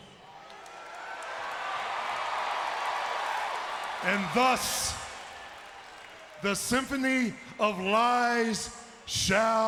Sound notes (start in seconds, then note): 1.6 crowd cheers